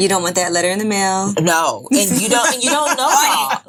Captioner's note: women laughing